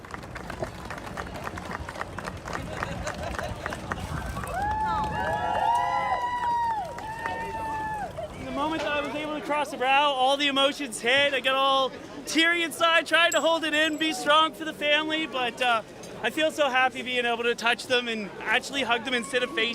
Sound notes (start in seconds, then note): 6.3 applause; 9.0 cheers